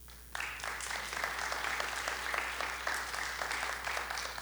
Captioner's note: audience applauding